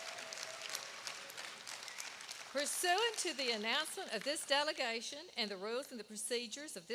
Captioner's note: applause